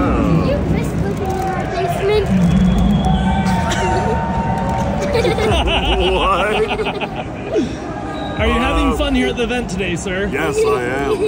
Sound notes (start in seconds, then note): 4.7 laughs